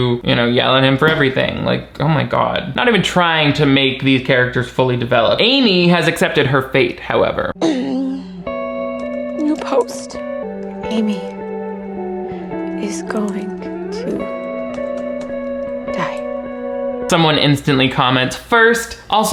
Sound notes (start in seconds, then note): 7.6 Amy grunts; 7.7 somber instrumental music; 11.3 somber instrumental music